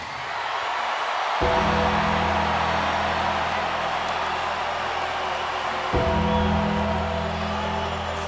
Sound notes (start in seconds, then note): 0.0 crowd cheers; 1.4 bell tolls